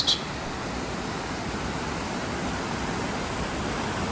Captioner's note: sound of water flowing